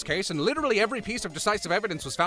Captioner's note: none